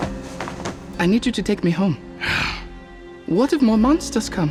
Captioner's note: suspiro